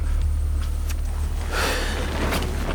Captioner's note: Dwight exhales; pensive music; water gurgling